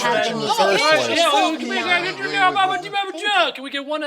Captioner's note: Chuck babbling gibberish